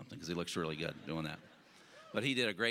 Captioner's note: audience laughing